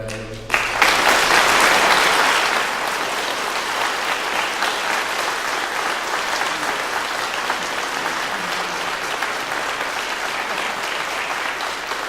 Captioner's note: clapping